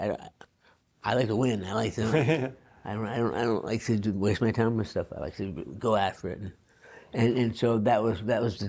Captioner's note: laughs